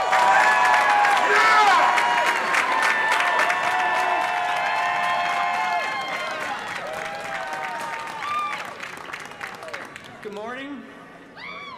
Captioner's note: applause